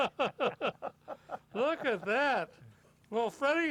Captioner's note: laughter